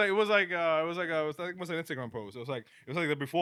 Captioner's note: speaking In Spanish